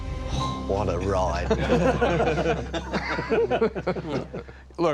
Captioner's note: all laughing